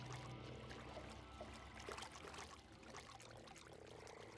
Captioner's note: water splashing